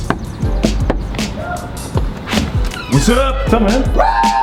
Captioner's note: knocking; man shouting; cheering